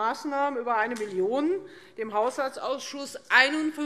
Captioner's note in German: none